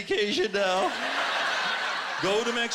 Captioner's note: laughter